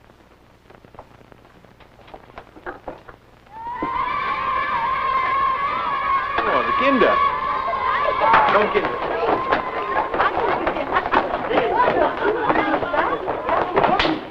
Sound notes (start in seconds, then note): 2.9 children shouting; 8.7 footsteps